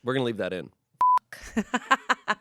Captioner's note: beep; laughs